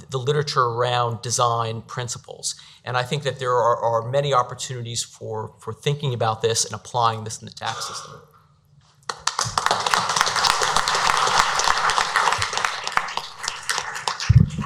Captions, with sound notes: the literature around design principles. And I think that there are many opportunities for thinking about this and applying this in the tax system. (applause)